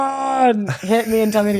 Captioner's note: groans